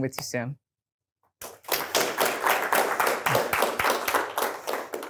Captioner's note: applause